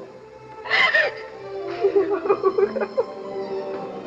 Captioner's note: erica cries